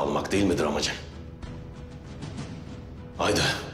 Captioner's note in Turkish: Dövüş Sesleri